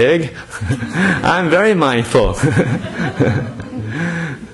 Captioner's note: audience laughter